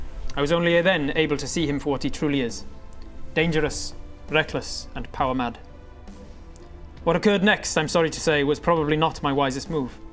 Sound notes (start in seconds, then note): none